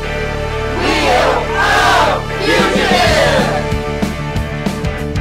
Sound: crowd; rock music

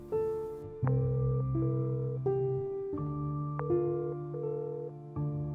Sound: phone dial

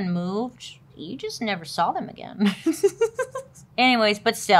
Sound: laughs

